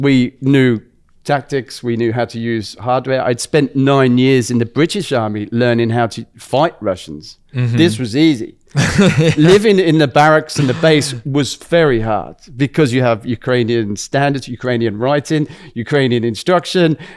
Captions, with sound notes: We knew tactics. We knew how to use hardware. I'd spent nine years in the British Army learning how to fight Russians. Mm-hmm. This was easy. [laughs] Living in the barracks- [laughs] in the base was very hard, because you have standards, writing, instruction.